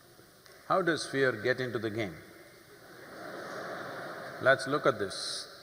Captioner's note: few laugh